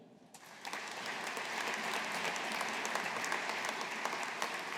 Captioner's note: audience applauding